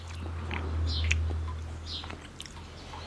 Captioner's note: birdsong